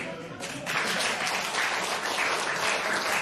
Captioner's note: applause